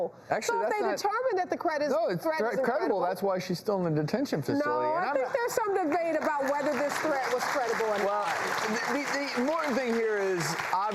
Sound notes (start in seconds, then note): 7.7 audience claps